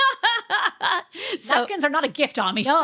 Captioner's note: laughing